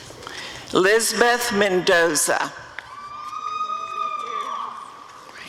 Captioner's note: audience cheering